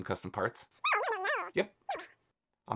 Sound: cartoon speaking

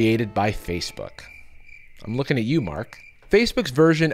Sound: crickets

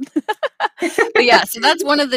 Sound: laughing

